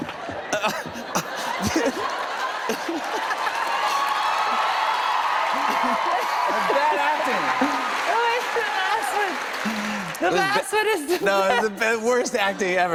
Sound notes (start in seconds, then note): 2.4 laughter; 4.5 cheers and applause